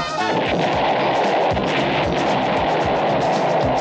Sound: explosion

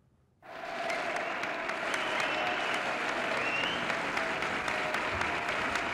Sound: crowd applauding; crowd cheering

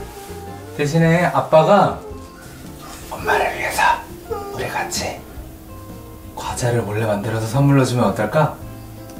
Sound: whispers

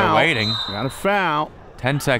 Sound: whistle

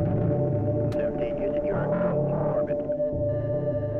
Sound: radio transmission

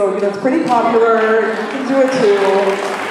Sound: applause

